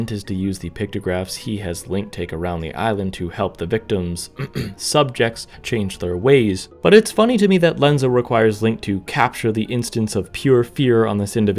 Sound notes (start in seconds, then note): 4.4 ahem